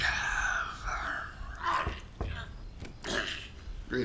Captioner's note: knocks at door